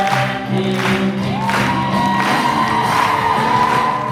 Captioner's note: crowd cheering